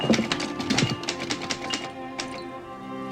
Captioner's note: typewriter keys striking